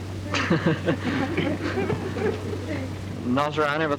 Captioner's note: laughing